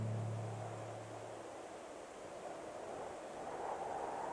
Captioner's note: wind whooshing